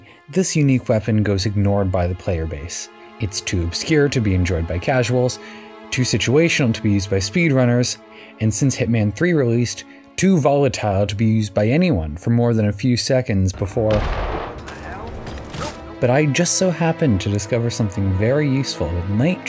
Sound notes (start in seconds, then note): 13.8 boom